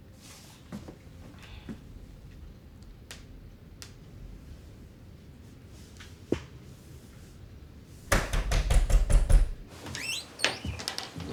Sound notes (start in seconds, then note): 8.0 Mr. Torrance knocking; 9.9 door squeaking